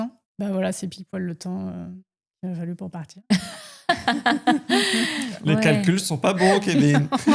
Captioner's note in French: rires